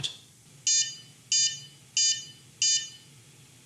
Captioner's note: beeping